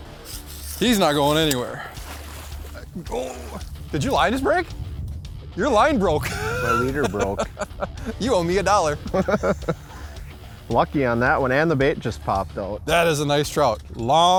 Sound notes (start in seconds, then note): 0.3 voiceover; 8.9 laughs